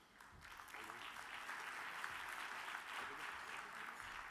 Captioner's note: audience applauds